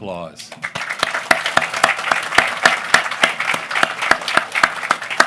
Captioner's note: applause